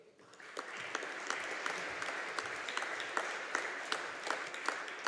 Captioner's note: audience applauding